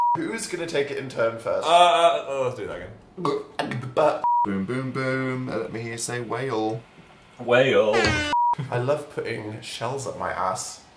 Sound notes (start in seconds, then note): 7.9 klaxons